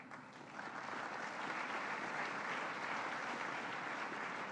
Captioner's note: applause